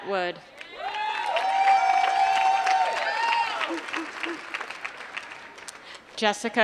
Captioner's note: applause